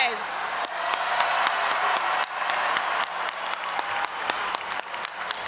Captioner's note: audience applauding and cheering